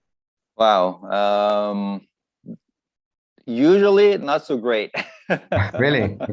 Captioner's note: laughs